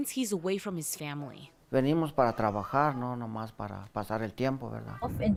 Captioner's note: speaking in foreign language